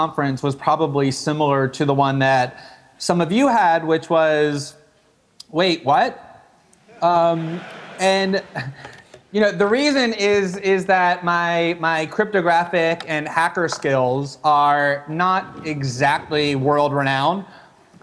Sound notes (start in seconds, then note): 7.0 laughter from audience